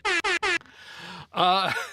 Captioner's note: horn honking; laughs